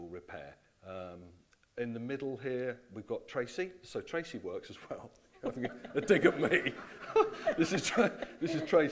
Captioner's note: laughing